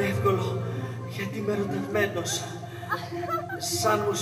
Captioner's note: γέλια κοριτσιών